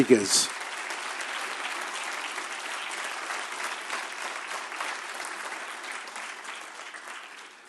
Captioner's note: applause